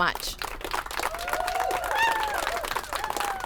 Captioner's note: applause and cheers